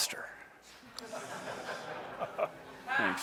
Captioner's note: laughter